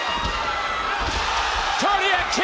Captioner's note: crowd cheers